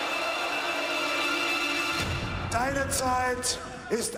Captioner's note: crowd cheering